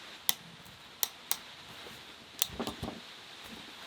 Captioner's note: dull cutting